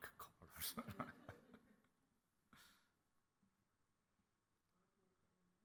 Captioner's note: laughs